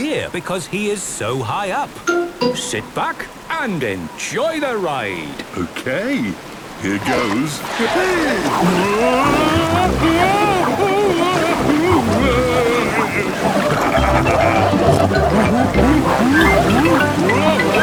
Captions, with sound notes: because he is so high up! - Sit back and enjoy the ride! - Okay, here goes! Wee! Whoa! (Daddy Pig shouting) (laughing, snorting)